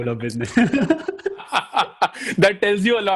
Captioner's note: laughing